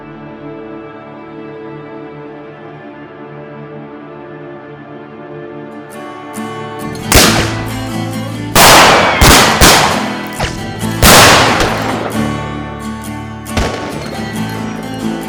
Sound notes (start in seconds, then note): 8.5 guns firing